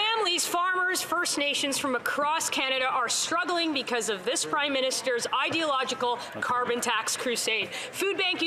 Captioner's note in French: voix de l'interprète